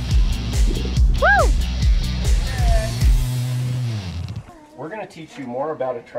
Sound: upbeat music; cheers

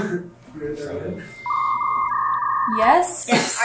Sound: dial up tone

